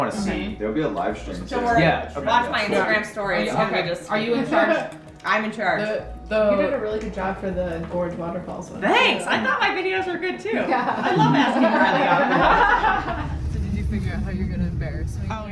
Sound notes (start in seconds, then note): 10.7 laughing